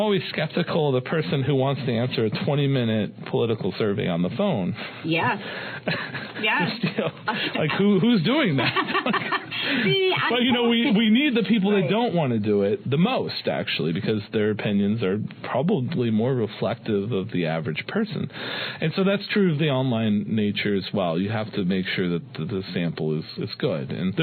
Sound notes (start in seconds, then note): 5.8 laughter